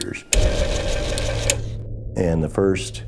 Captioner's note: newspaper Printer whirring